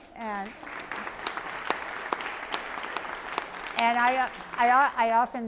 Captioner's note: applause